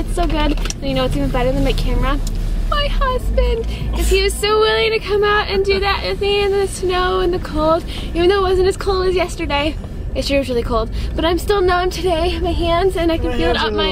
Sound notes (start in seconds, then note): 3.9 scoffs, then laughs